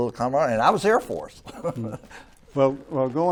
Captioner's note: laughs